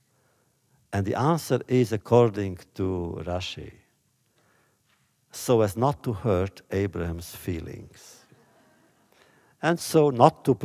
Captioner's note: laughter